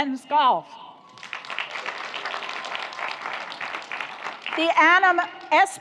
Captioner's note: audience applauds